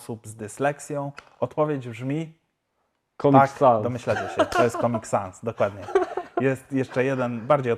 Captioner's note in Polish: śmiech